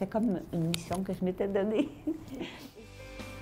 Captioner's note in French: rires